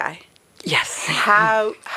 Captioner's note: laughs